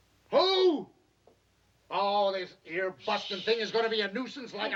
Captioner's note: shouting